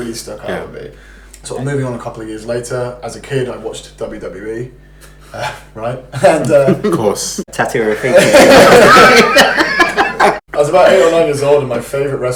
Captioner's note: laughs